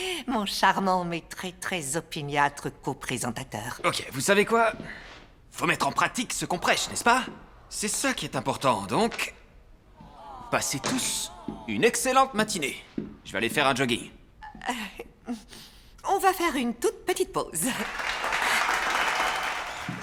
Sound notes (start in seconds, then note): 14.6 chuckles; 17.6 applause